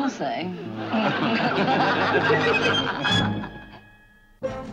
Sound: laughing

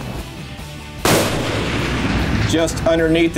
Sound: gunshot

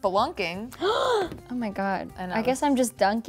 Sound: gasps

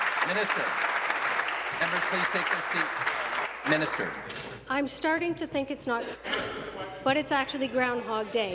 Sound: applause

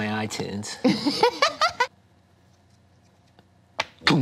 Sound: laughter

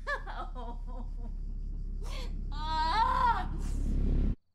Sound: sobbing

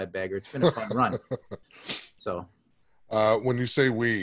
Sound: laughs

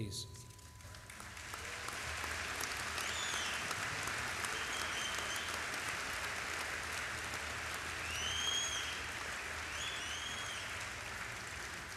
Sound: applause

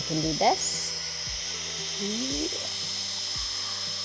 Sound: machine whirring

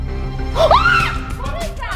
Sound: screams

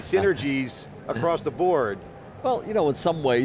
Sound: Pat laughs

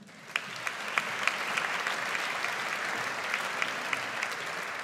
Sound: audience applauds

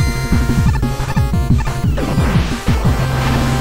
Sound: upbeat quirky music; Mega Man bleeps; ejector rocket roars

